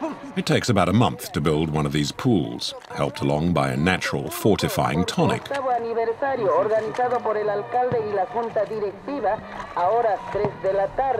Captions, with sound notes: It takes about a month to build one of these pools, helped along by a natural fortifying tonic. [Foreign spoken audio]